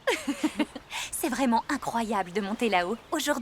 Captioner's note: laughing